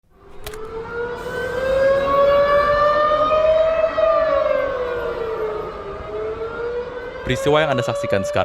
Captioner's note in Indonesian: suara alarm